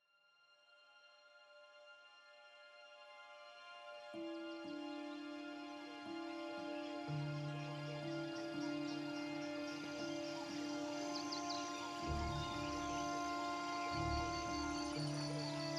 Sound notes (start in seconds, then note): 9.9 birds chirping